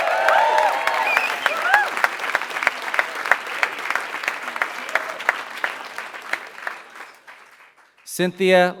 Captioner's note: applause